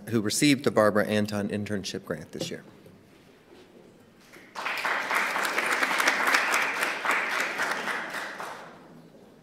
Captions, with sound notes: received the Barbara Anton Internship Grant this year. [APPLAUSE]